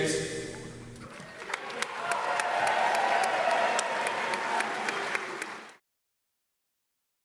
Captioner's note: audience applauds; audience cheers